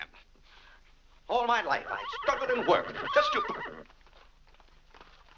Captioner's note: horse whinnying